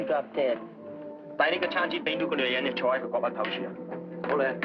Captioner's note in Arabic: يتحدث الصينية